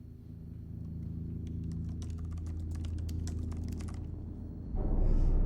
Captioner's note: keyboard typing; eerie music